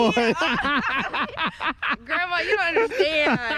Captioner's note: laughing hysterically